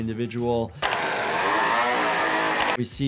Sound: chainsaw buzzing

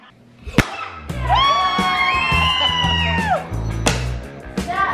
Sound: kids cheering

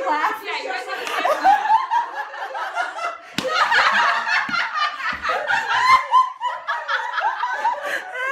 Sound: laughter triggering laughter triggering laughter

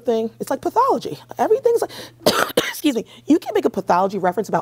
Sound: coughs

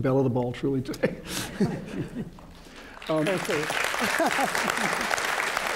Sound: applause

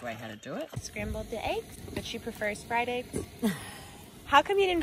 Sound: laughter

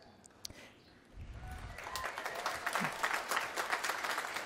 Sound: applause

